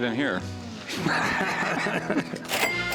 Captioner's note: laughter